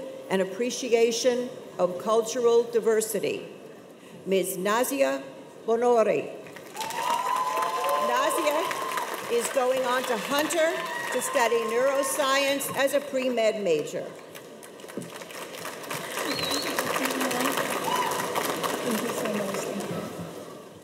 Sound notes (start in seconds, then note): 6.6 cheers and applause